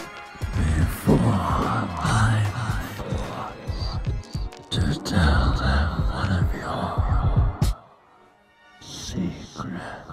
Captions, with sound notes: - [Spooky Voice] Before my eyes to tell them one of your secrets.